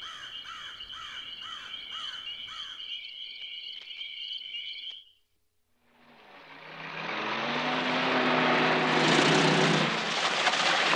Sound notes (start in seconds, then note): 0.0 bird squawking; 5.8 engine revving